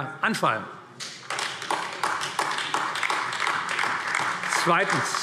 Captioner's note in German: Beifall AfD